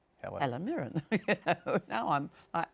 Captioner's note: chuckles